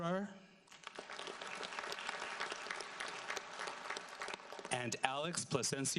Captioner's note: audience applauds